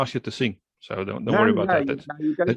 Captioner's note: laugh